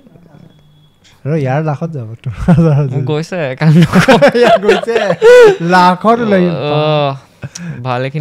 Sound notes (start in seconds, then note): 6.5 laughs